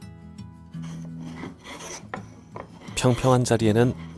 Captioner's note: planing sound